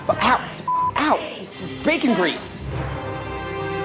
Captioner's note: beep